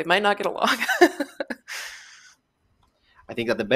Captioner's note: laughs